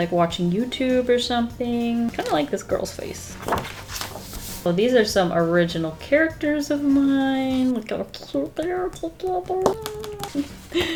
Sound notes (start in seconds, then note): 3.3 page turning